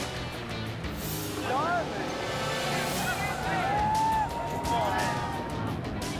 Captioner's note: people shouting and cheering